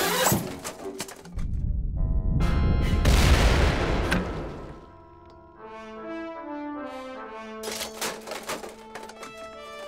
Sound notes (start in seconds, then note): 2.8 deep rumble and explosion